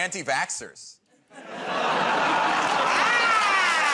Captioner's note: laughter